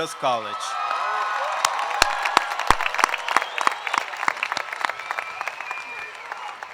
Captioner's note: cheers and applause